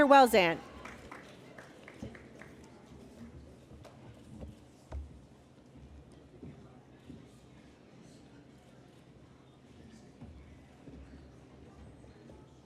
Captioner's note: applause